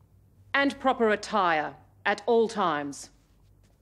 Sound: none

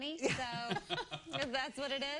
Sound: laughter

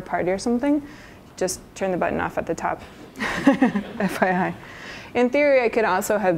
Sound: laughs

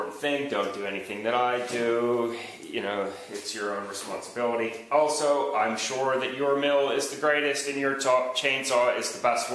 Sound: sigh

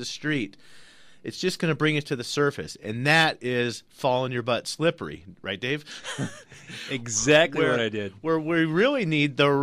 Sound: laughs

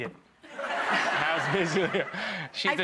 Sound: audience laughing

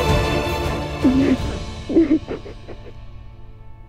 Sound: crying

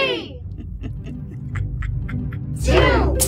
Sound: evil Laugh

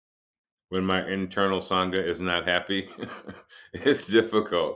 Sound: laughs

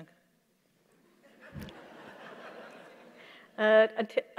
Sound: laughter

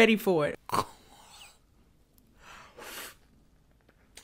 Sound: gags

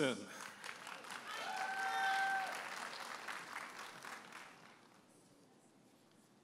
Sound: audience applauding and cheering

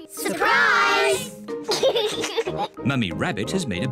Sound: laughs

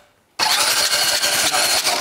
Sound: sound of spinning

